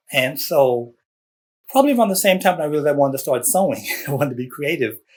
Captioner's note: laughs